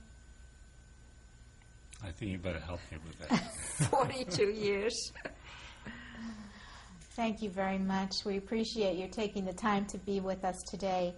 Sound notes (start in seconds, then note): 3.2 laughter